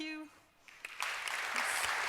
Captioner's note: applause